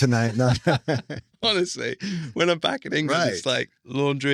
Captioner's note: laughing